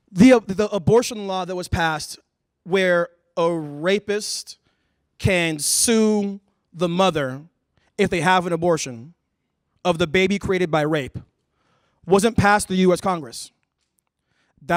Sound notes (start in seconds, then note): none